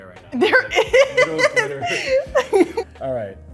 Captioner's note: laughing